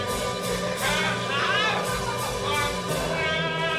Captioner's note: Alex cries out